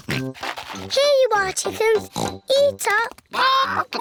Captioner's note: oinks